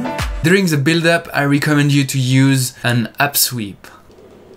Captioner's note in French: White Noise montant